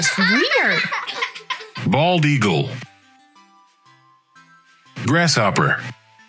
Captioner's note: children laughing